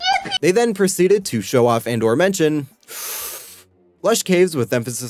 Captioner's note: inhale